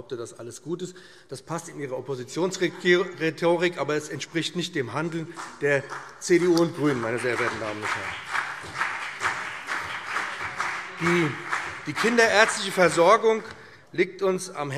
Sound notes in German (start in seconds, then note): 7.0 Beifall BÜNDNIS 90/DIE GRÜNEN und CDU - Zurufe SPD und DIE LINKE